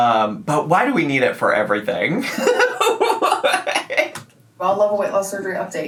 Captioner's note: laughs